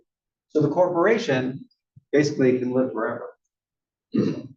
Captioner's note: cough